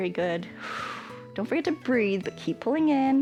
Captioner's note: exhales